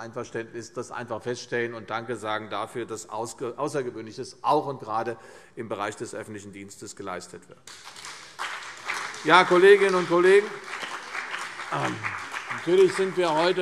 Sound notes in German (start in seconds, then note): 7.6 Beifall CDU, BÜNDNIS 90/DIE GRÜNEN, vereinzelt SPD und DIE LINKE